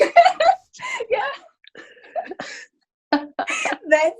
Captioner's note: laughter